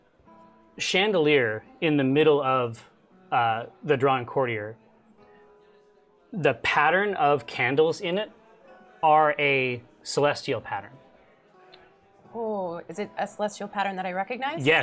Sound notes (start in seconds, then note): none